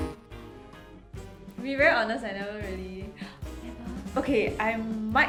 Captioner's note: gasp